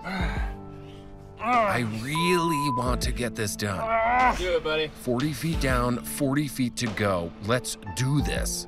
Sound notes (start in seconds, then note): 1.4 grunts